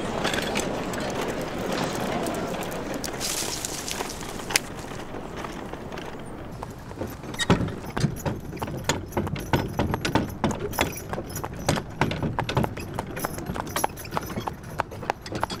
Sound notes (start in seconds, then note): 3.3 tree limbs crunching; 6.4 thumping; 7.0 chains clinking